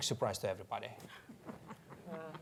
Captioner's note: laughs